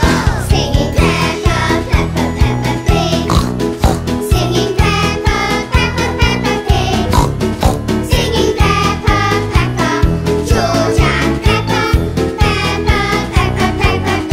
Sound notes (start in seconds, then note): 3.2 snort snort; 7.1 snort snort